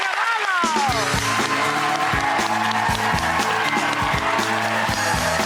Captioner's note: audience cheers and applauds